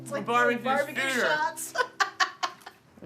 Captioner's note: laughing